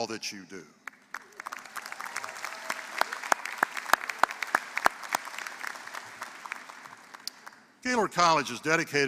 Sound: applause

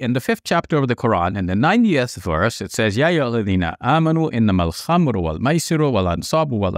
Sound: speaks Arabic

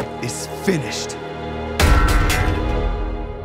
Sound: clanking

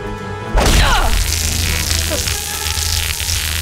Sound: widow's bite buzzing

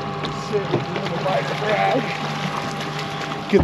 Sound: fish splashing

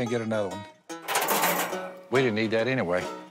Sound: clanking

